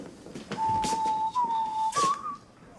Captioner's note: whistling